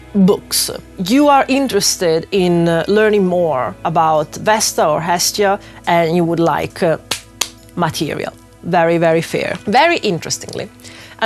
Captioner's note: clap hands